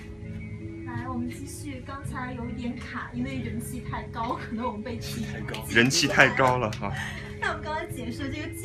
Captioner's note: clapping